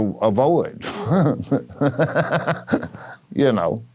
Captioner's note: laughs